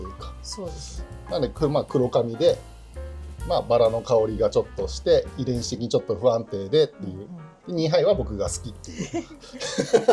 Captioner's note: laughs